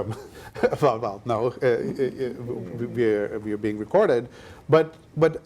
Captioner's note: laughs